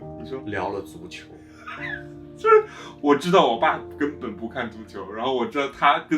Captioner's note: laugh